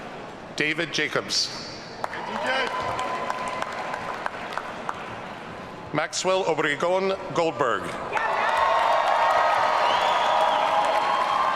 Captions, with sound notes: David Jacobs. (audience cheering) Maxwell Obregón Goldberg. (audience cheering)